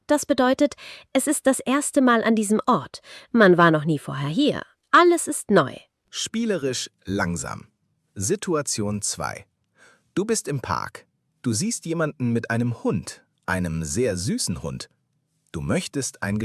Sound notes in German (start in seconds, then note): 14.7 räuspern